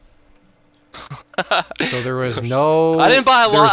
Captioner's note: laughing